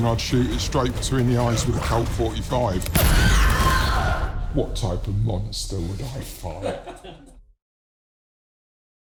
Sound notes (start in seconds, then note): 6.5 interviewer laughs